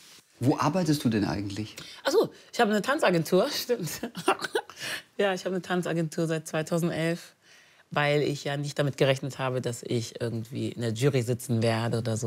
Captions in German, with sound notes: Wo arbeitest du eigentlich? - Ach so, ich hab eine Tanzagentur. Stimmt. (Lachen) Ja, ich hab eine Tanzagentur seit 2011. Weil ich nicht damit gerechnet habe, dass ich in der Jury sitzen werde.